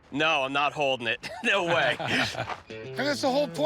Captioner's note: laughter